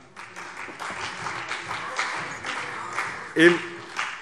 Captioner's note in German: Beifall CDU